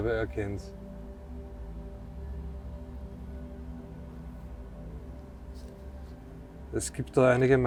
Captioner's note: wind in the background